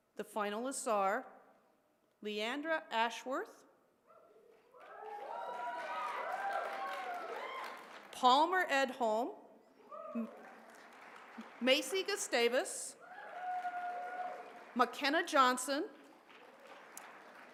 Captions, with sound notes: The finalists are Leandra Ashworth, [applause] Palmer Edholm, [cheering] Macy Gustavus, [applause] Makenna Johnson,